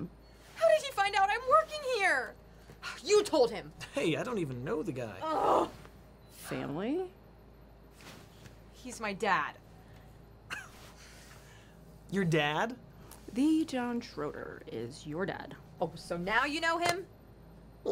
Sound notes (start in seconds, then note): 5.2 June groans; 10.5 chuckles